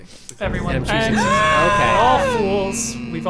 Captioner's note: gasping dramatically